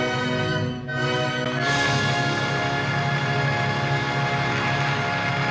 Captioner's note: audience Applauding